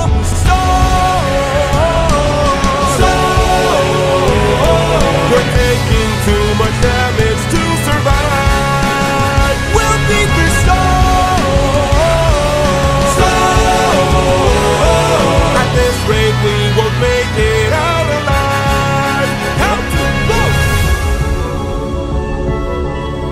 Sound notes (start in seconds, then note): 2.6 storm; 14.1 storm